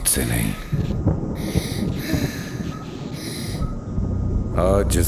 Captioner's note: child Sighs